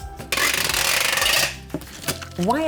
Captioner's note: tape screeches